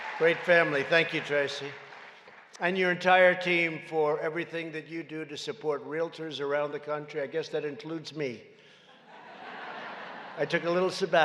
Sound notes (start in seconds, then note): 0.0 applause; 8.9 laughter